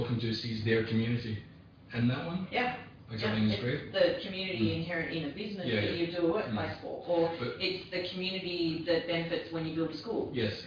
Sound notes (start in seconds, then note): 5.8 audio distorts